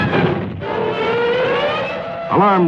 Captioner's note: alarms wail